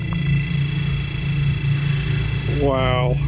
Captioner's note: beeping